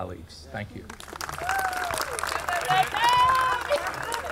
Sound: audience cheering

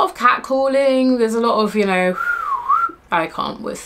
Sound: whistles

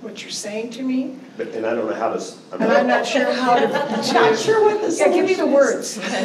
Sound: laughter

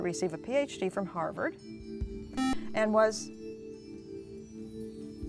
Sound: buzzer

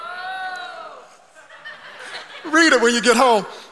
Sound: congregation laughing

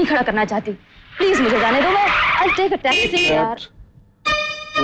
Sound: brakes squeal

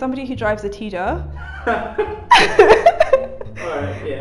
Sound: chuckles

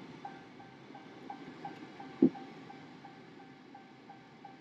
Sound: car indicator beeping

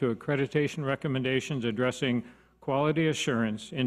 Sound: none

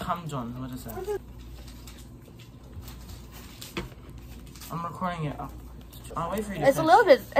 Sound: nom nom

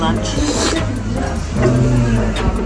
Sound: slurp

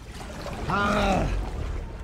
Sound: grunts in relief

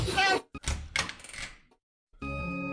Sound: Minecraft door open sound

